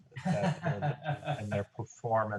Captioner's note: laughter